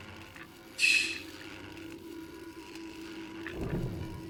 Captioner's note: scoffs